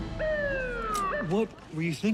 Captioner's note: thud; siren chirps